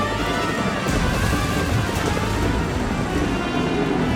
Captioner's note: booming